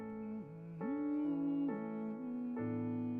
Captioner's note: humming